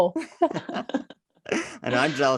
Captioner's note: both laugh